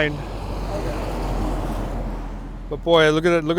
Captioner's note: semi truck passing